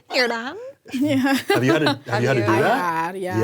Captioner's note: laughs